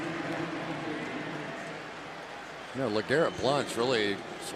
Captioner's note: pa announcement